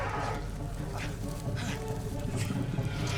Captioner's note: Cador panting